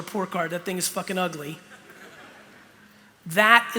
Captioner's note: laughter